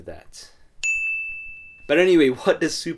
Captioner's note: ding